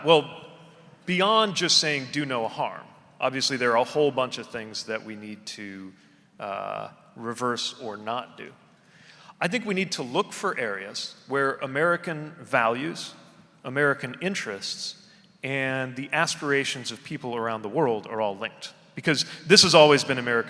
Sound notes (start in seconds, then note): none